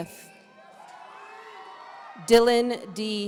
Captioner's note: audience cheering